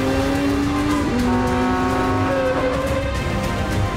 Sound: honking, braking

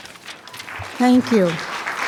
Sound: attendees clapping

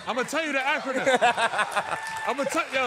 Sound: laughing

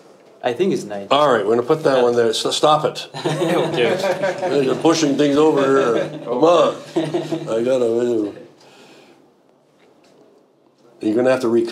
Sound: all chuckle; all chuckle

